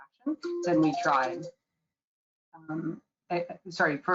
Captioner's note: phone rings